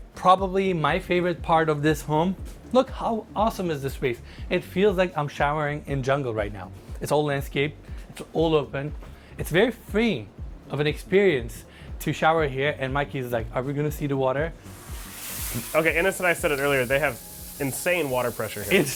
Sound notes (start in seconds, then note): 14.7 water spattering